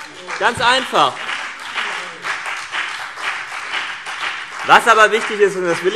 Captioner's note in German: Beifall CDU und BÜNDNIS 90/DIE GRÜNEN